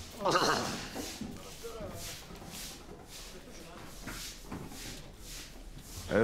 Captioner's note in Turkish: Süpürge sesi